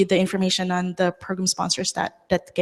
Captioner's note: none